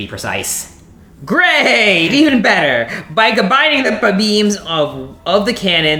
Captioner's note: sarcasm